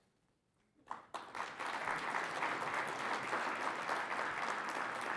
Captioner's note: audience applauding